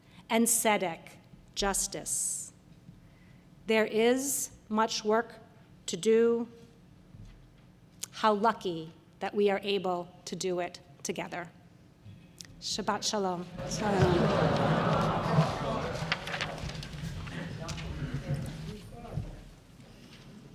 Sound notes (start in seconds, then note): 16.5 paper rustling; 17.4 audience chattering